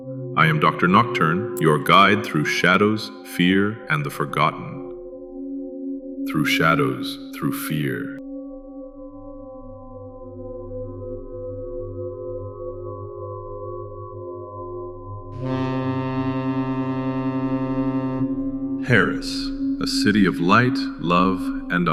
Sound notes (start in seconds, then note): 0.0 whispering; 5.6 echoing whispering